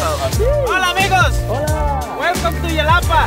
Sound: man speaking in Spanish

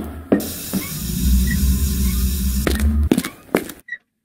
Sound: irritating squeaking

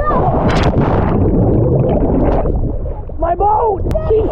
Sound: water swishing

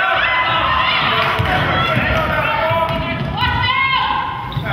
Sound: crowd claps

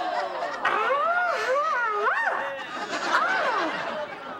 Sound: screaming

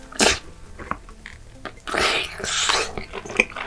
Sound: rolling and eating

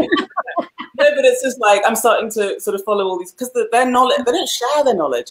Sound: laughs

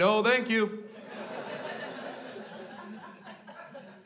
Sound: crowd laughs

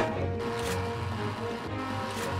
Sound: video game sounds

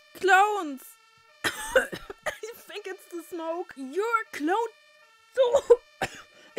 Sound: cough

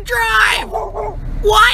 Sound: dog barks

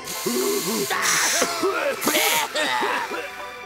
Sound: coughing

